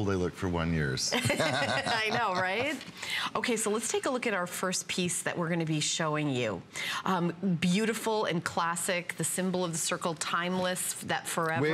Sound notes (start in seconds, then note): 1.1 laughter